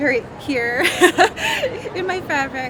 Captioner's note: laughing